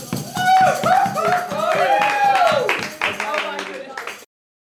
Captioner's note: cheering